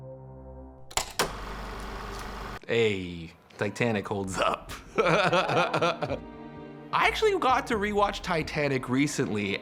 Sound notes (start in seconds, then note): 1.0 film reel flapping; 4.8 chuckles